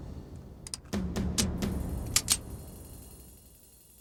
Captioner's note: gun cranking